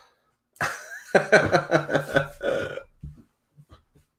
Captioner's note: laughs